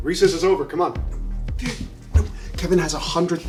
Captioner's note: whispering